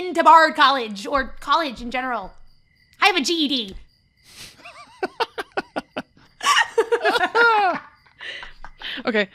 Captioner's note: laughter